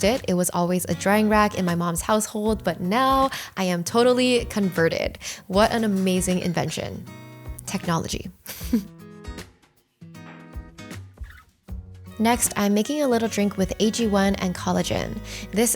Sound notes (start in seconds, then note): 8.5 laughs; 10.0 serene music